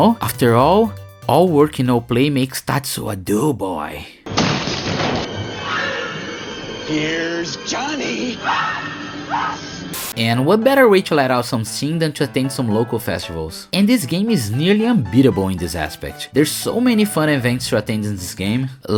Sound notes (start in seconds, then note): 8.5 screams of despair